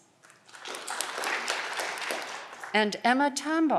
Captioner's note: audience clapping